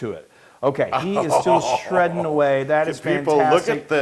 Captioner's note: laugh